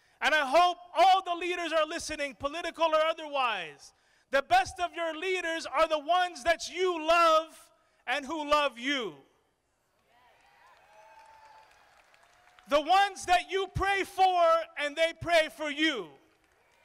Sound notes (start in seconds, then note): 10.0 crowd applauding